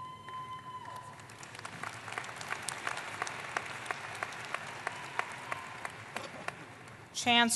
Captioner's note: applause